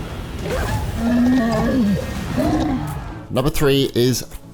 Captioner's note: croaks